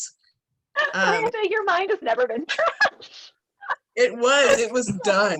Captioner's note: laughing